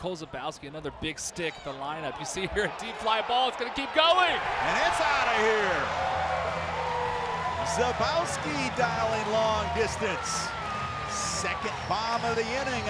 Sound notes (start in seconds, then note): 6.5 crowd cheering